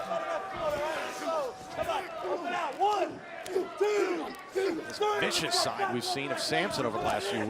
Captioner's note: crowd chatter